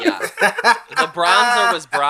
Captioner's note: laughs